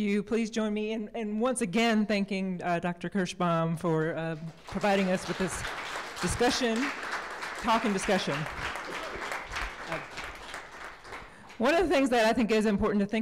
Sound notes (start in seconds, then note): 4.6 applause